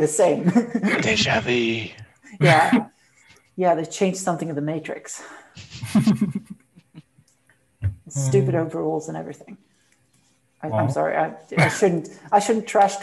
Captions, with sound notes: Deja Vu They have changed something in the matrix (Laughs) All these stupid overalls and everything I'm sorry, I shouldn't trash talk the old rules